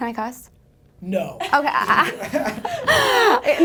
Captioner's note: laughter